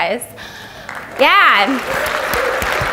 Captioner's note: audience applauds